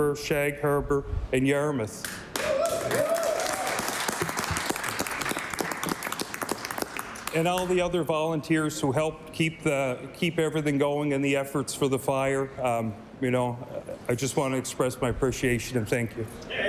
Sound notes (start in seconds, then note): 6.6 cheering/Applause